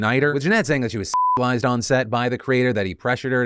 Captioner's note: beep